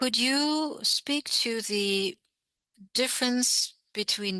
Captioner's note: speaking French